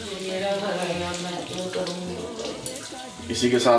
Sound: murmuring

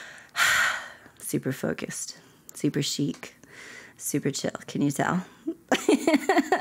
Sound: laughter

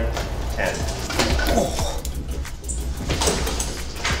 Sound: groans

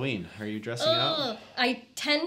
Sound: groaning humorously

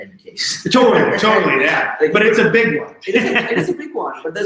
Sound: laughing

